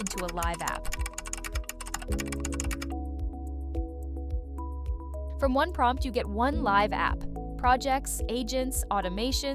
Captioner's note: keyboard clicking